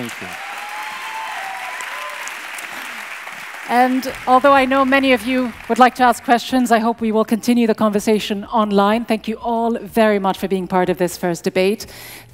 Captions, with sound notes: - Thank you. (audience cheers) - And although I know many of you would like to ask questions, I hope we will continue the conversation online. Thank you all very much for being part of this first debate.